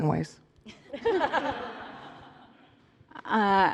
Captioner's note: laughter